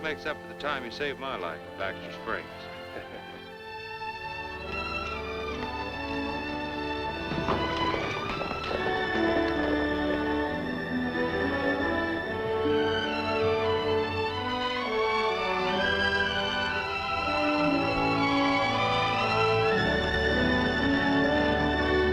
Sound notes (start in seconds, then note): 1.1 laughs; 13.6 dramatic music plays